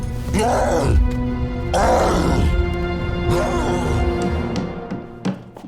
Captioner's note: roaring continues